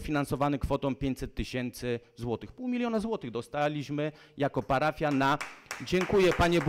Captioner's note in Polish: Oklaski z sali